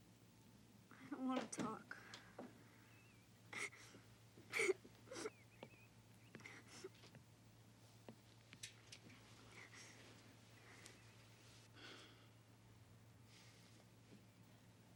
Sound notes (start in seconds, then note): 3.6 Caddie crying; 11.8 John sighs